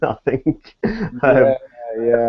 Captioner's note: laughs